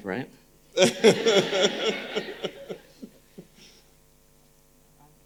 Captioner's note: audience laughing